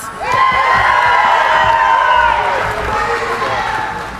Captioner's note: cheering